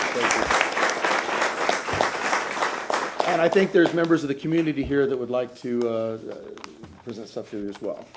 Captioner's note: applause